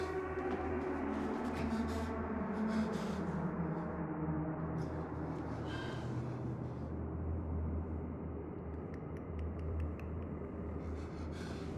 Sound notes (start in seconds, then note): 8.8 tongue clicking